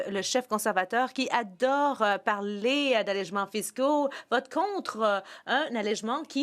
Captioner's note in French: voix de l'interprète